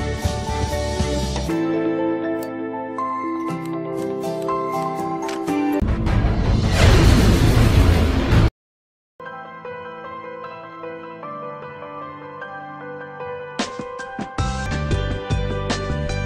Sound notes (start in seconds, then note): 6.4 vwoosh; 9.2 light music